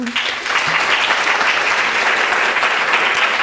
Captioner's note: applauding